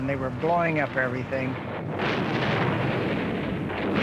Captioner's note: gunfire